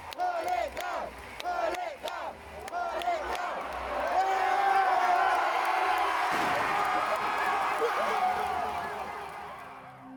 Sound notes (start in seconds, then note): 4.1 crowd cheering; 6.3 statue crashing